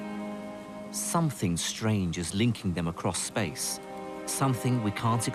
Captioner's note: voiceover